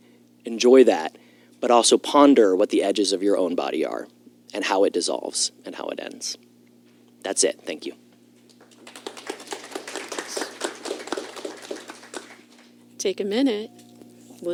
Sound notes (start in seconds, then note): 8.5 applause